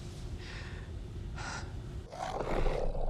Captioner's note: Jane gasps; The Patriarch snarling